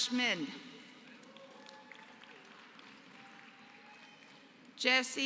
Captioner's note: applause